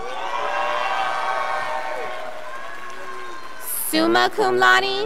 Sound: scholars applauding

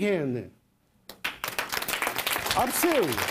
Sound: applause

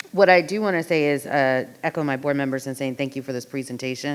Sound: none

